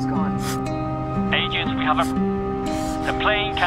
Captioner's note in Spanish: Voz en la radio